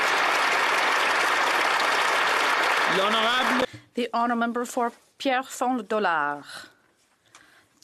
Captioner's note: applause